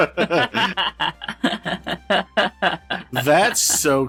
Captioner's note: laughter